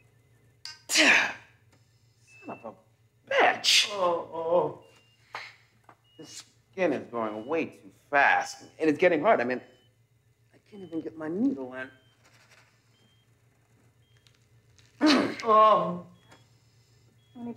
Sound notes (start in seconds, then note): 0.8 Larry groans; 3.9 Donald moans; 15.0 Donald moans; 15.0 Larry grunts